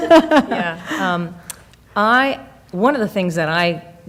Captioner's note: laughing